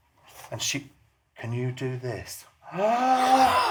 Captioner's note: gasps